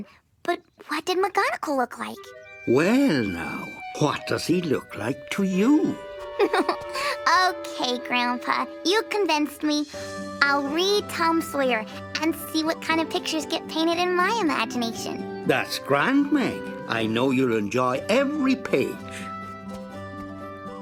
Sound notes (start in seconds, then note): 6.1 chuckling